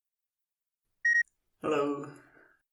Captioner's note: beep